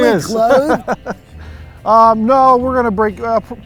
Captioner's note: laughs